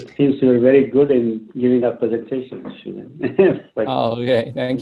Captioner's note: laughs